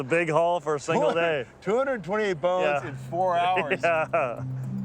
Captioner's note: chuckling